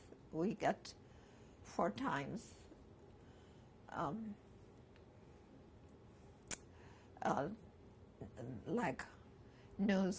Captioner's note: pauses for 6 seconds